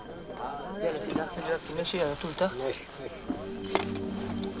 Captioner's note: Arabic spoken audio